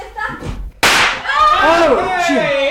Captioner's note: sound of firecrackers